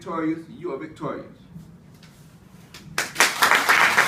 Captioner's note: clapping from the audience